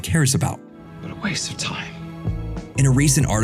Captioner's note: whispering